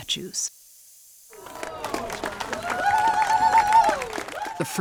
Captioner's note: crowd applauds